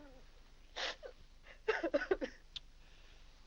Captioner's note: weeping